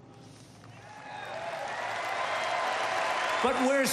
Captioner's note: applause